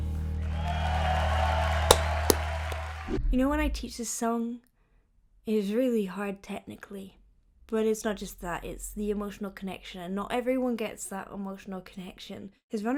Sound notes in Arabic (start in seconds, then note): 0.2 هتاف الجمهور وتصفيقه